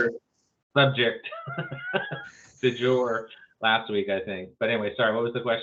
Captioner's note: laughs